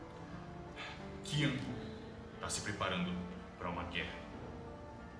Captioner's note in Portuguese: suspiro